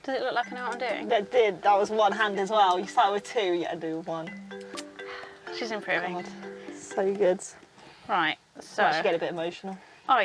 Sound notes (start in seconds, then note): none